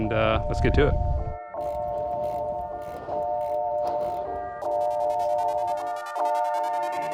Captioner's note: car engine revving; upbeat music